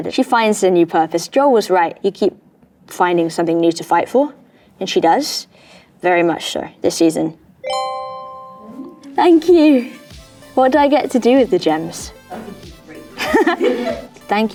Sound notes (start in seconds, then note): 7.6 tone dings; 12.9 Bella chuckles